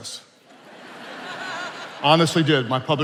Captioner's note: attendees laughing